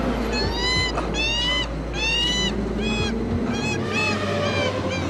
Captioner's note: cheetah crying